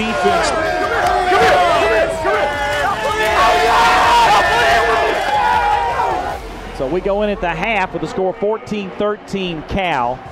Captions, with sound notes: Come here, come here, come here. [Yelling]. We go in at the half with the score 14-13 Cal.